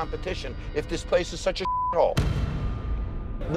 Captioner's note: beep